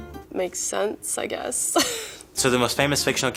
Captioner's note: sighs